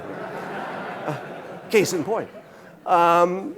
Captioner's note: audience laughing